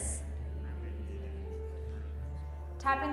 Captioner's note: group talking quietly